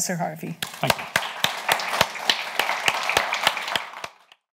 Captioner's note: audience applauds